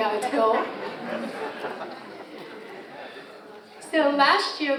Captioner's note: audience laughs